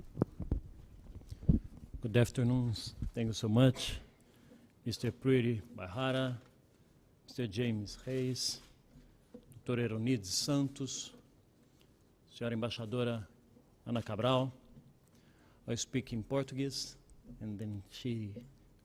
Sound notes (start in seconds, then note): 9.9 speaking native language